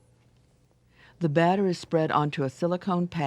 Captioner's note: voiceover